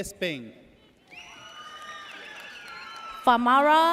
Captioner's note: audience cheers